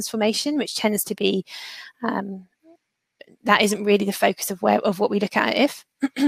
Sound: erm

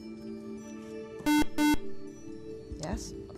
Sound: buzzer

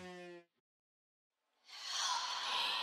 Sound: whisper

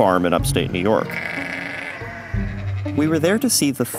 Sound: sheep bleating

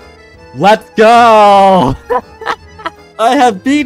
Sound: laughs

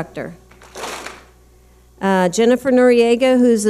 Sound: clap smack

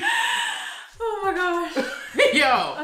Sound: gasps

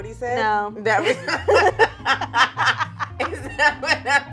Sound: both laugh

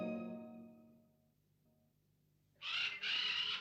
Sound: squawking

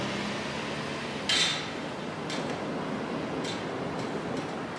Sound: gate slams

